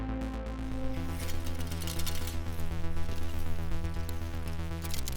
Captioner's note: tape rattles